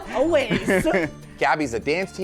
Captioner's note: laughing